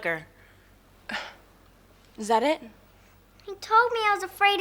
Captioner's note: sighs